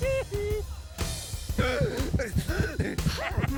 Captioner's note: erratic heartbeat